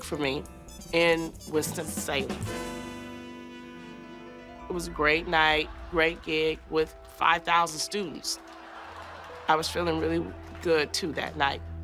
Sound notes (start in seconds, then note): 8.4 laughter